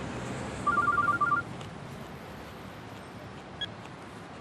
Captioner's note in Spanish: suena el celular